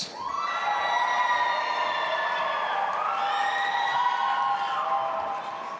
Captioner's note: audience applauding and cheering